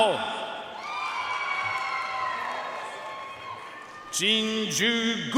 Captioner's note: audience cheering and applauding